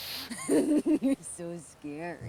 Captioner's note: Mackenzie laughing